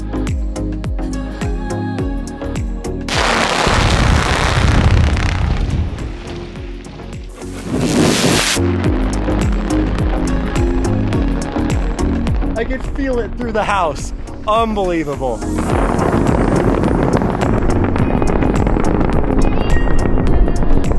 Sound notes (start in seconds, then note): 0.2 upbeat music; 3.1 explosives rattling; 3.4 ground rumbling; 9.4 explosives rattling; 9.4 ground rumbling; 15.3 explosives rattling; 15.7 ground rumbling